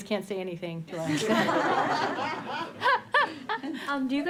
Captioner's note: laughter